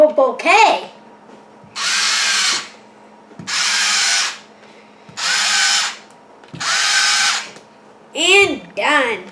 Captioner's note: electric Spritz Noise